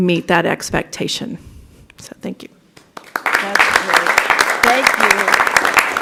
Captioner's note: applause